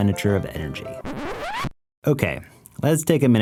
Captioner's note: SOUND EFFECT: Record scratch